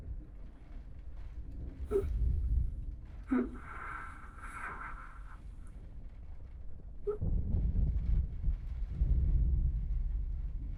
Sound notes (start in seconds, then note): 2.3 gasping; 7.5 thunder rolling